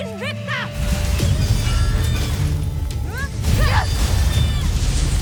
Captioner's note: growls; weapons swoosh; elemental whoosh-crackle; theme music playing